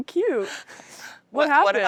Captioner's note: laughing